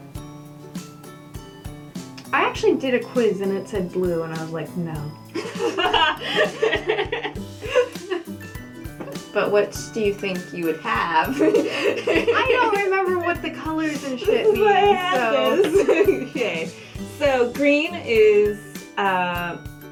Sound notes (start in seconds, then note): 5.3 laughter